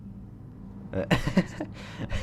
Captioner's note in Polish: śmiech